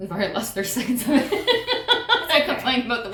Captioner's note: laughter